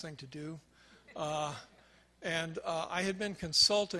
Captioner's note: crowd laughs